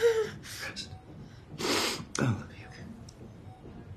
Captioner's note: sniffling